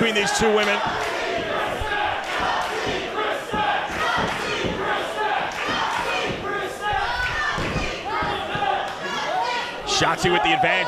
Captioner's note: applause